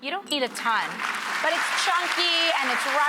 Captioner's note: audience applauds